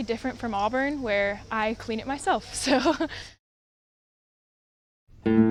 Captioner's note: laughs